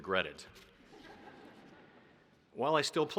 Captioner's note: audience laughing